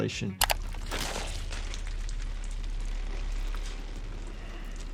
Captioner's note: blood splattering